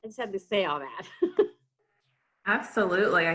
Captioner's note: chuckles